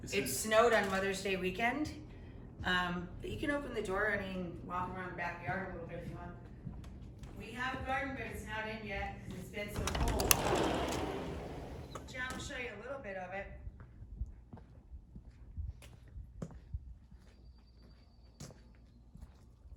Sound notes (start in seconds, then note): 9.7 door sliding open